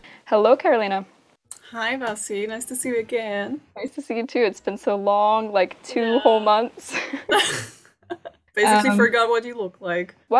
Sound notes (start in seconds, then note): 8.0 both laugh